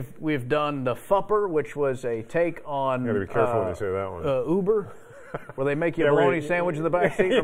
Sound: laughter

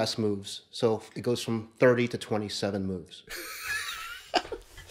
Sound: laughing

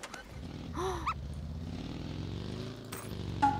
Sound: the sound of a car at that time!

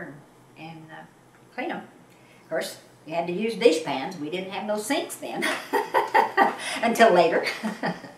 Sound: laughs

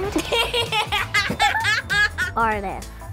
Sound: laughing

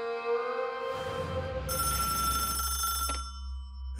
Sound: ringing

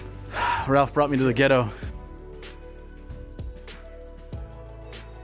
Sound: sigh

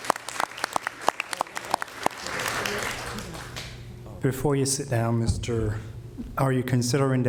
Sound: applause

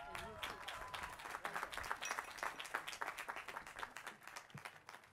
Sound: applause

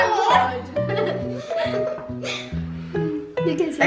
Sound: laughing

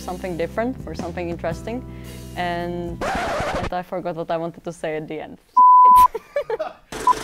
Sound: scrached record sound

